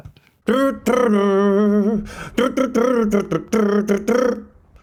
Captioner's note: humming